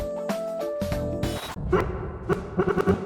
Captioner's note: glitch noise